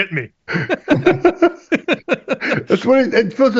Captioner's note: laughter